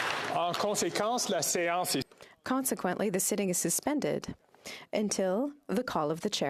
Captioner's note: applause